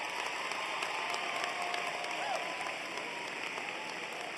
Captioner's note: cheers and applause